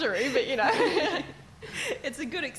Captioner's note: laughing